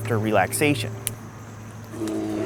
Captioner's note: twig snaps; bear growls